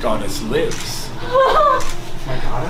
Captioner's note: crying